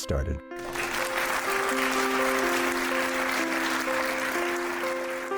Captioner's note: applause